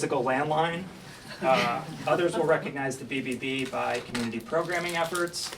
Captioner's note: laughter